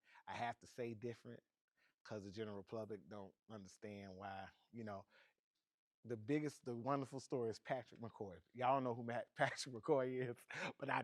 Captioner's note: laughing